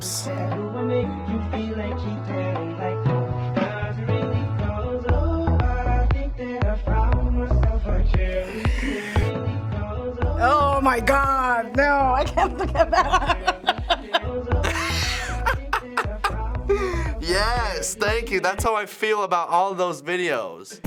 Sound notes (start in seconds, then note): 8.4 suppressed laugh; 14.6 laughs; 14.6 cracking up